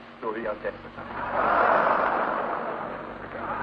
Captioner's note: laughter